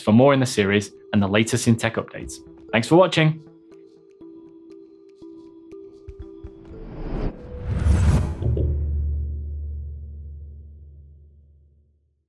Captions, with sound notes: for more in the series and the latest in tech updates. Thanks for watching. (lively music) (screen whooshing)